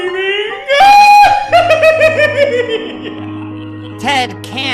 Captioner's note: Tinky laughing